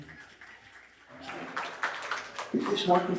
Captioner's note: audience applauding